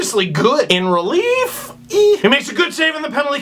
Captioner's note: indecisive squeal